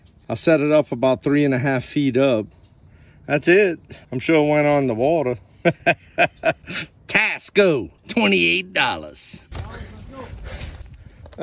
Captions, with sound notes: I set it up about 3 1/2 feet up That's it I'm sure it went under water (laughing) TASCO! $28.00 Alright let's go